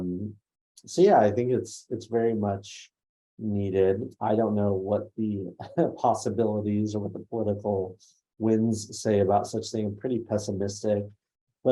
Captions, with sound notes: So, yeah, I think it's very much needed. I don't know what the (laughs) possibilities or what the political wins say about such thing. I'm pretty pessimistic.